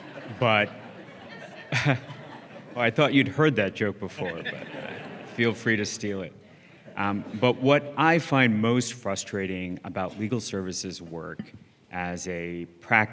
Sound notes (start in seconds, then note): 0.0 laughs; 0.0 laughter; 4.1 laughter